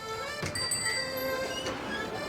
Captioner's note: bell